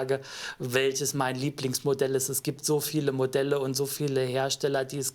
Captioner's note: none